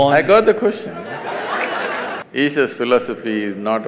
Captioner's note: laughter/Applause; 笑聲/掌聲